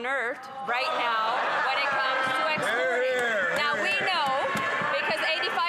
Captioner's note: speaking French; some Applause